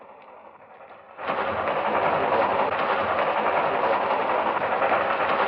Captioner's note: train engine roaring